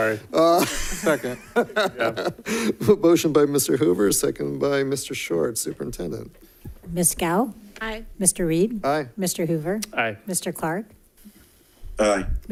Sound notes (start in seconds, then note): 1.9 laughs